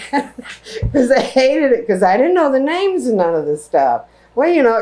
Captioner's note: laughter